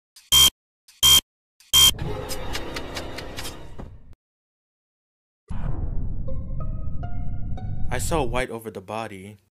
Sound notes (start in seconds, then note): 0.0 failed Card Swipe Sound